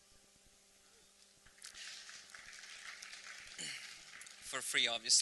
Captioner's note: applause